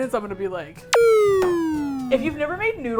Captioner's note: deflating sound